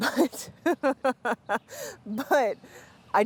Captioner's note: laughter